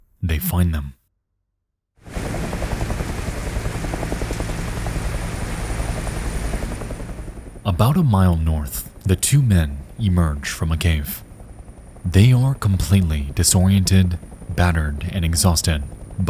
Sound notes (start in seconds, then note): 0.0 tense music; 2.0 helicopters chopping